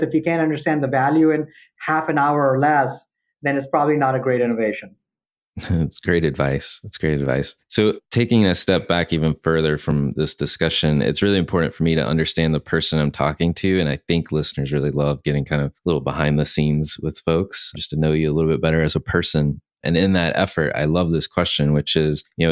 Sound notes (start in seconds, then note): 5.6 chuckles